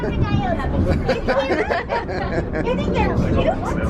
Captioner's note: family giggling